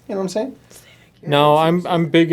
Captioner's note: whispers